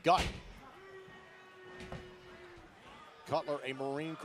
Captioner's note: crowd cheering